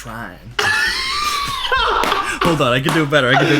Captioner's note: both laugh